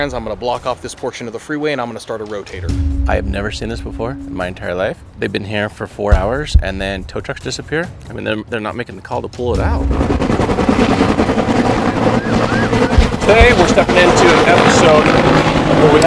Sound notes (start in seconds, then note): 9.5 chopper flying